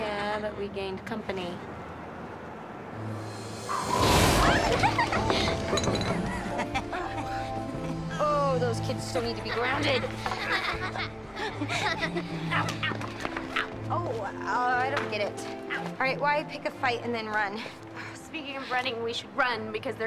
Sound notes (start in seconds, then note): 2.6 wind whirs; 4.6 laughter